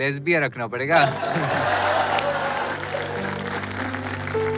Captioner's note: Audience laughing, clapping